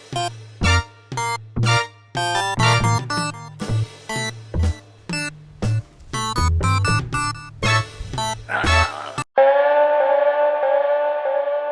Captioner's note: his cell phone rings